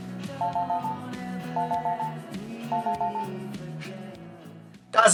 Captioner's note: cellphone ringing